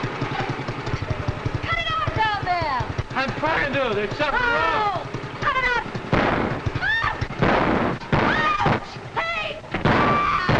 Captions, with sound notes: - Cut it out down there. - I trying to. There's something wrong. - Oh, cut it off. (explosion booming) Ah, ouch! Hey, ouch!